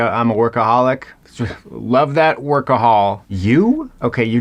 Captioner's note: exhales